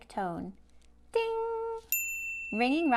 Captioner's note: bell sound plays